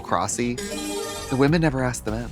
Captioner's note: bright chime